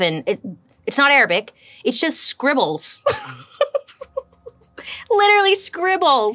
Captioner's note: laughs